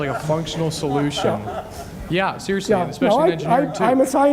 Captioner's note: audience laughs